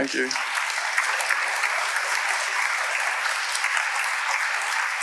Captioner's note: audience applauding